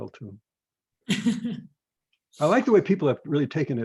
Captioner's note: laughs